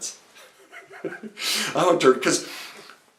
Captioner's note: speaker chuckles